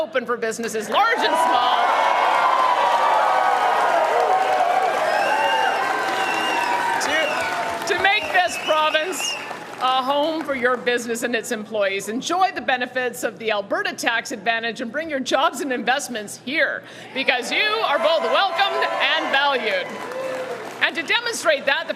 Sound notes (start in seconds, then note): 5.0 cheering